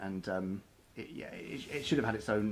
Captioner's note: none